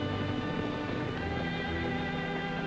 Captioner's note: hooves pounding